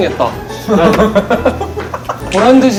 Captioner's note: laughing